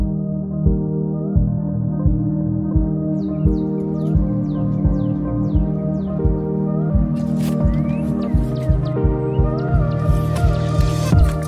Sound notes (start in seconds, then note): 0.1 soft music; 3.4 chirping; 7.1 rustling